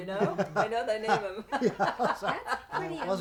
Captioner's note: laughs; laughing